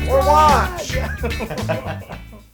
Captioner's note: laugh